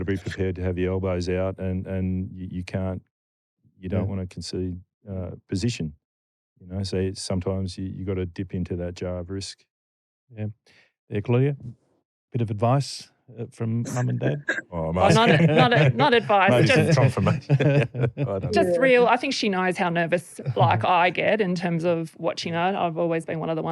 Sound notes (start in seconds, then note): 15.0 laughter